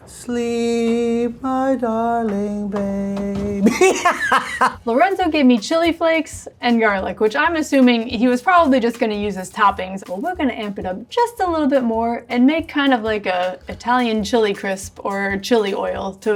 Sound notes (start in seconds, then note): 3.6 laughs